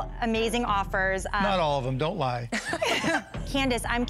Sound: laughter

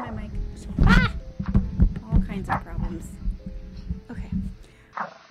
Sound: dog barking sfx; mic rolling; mic thumps x2; dog playful growl sfx

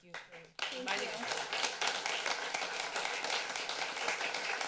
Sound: applause

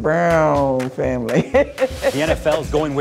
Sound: laughing

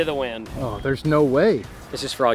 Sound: voiceover

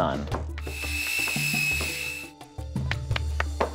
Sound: saw whirring

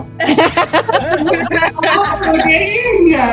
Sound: laughter

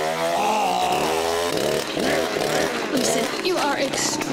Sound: growling; whirring

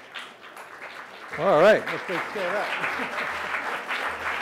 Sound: audience clapping; laughs; audience clapping

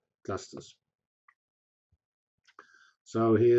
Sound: pause

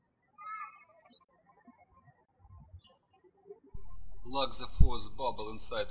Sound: bird chirping

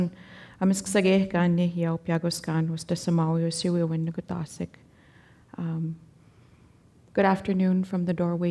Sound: speaking Danezaa

